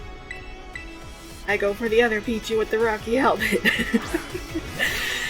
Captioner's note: laughs